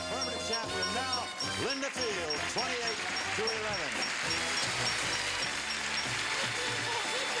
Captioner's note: applause